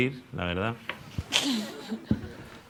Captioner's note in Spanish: Risas